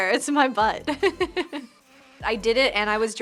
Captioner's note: laughs